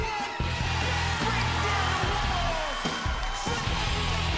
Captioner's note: crowd cheering